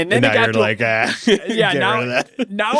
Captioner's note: laughs